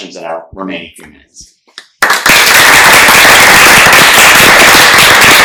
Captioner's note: applause